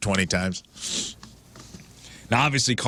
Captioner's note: sniffling